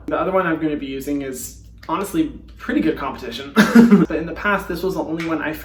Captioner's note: laughing